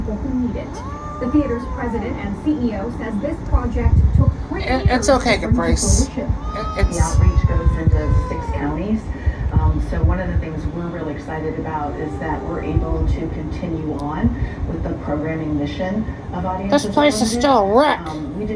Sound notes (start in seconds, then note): 0.7 yowls and growls; 6.1 continues to yowl and growl